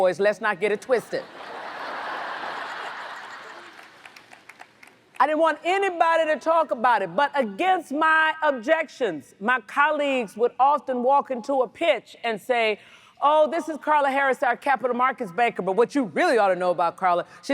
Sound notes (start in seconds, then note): 1.0 audience laughs